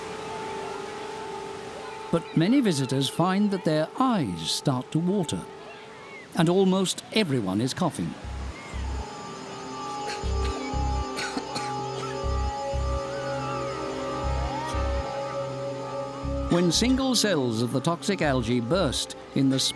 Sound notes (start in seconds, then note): 11.0 coughing